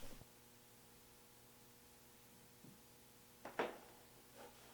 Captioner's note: electricity humming